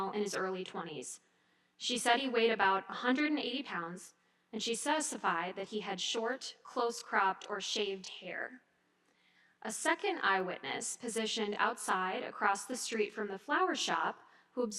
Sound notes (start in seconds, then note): none